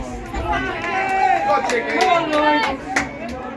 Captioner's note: cheering and clapping